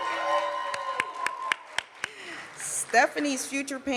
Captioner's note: cheering and applause